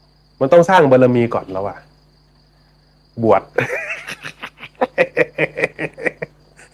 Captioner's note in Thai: เสียงหัวเราะ